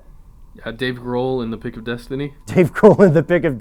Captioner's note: voiceover; laughs